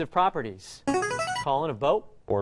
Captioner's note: chiming